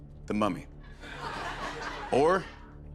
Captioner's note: laughter